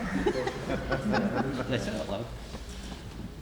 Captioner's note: laughs